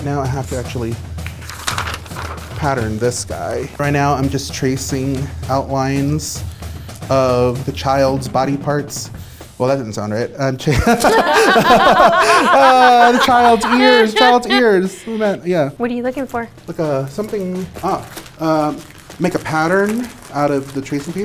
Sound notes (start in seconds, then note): 10.8 laughs; 13.5 percussive drum music